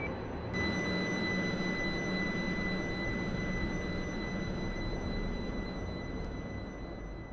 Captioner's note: train accelerating